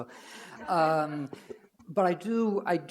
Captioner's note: audience laugh